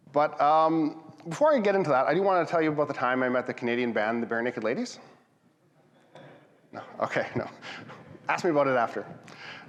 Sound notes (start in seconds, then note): 5.8 audience laughs